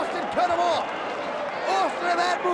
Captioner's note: audience applauds and cheers